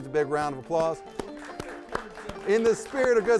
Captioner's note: host applauding; audience applauding